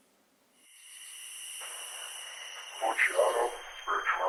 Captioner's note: crickets chirp; Chemock speaks Latin